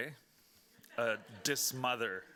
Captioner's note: speaking Spanish; audience laughing